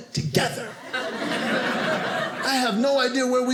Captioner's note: audience laughing